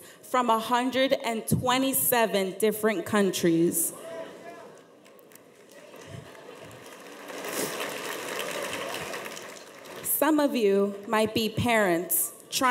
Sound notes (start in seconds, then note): 4.0 audience chatter; 7.3 audience applauds